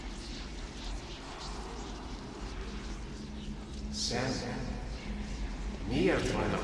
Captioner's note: whispering continues